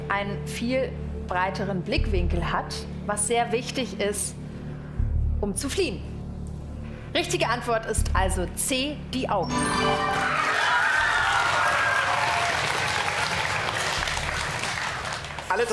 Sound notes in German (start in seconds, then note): 12.9 Jubel und Applaus